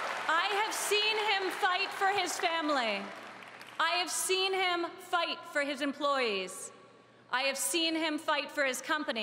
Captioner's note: applause